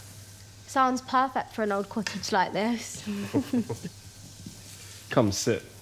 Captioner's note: chuckles